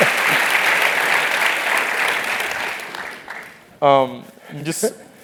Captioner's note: applause; laugh; applause; laugh